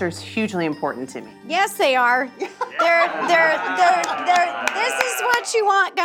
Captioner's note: everyone laughing